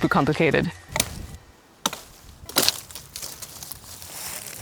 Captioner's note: wood thudding